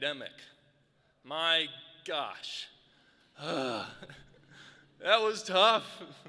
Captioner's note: groans